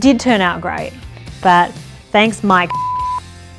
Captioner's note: beep